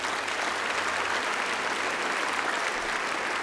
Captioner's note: applause